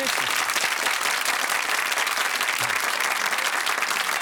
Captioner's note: applause